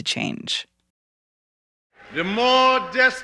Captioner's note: soundbite of archived recording